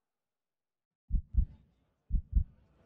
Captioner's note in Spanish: Latidos ascendentes